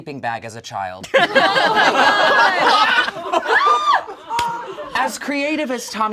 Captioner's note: all laugh